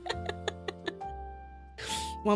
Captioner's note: laughs